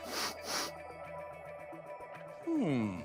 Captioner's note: sniffs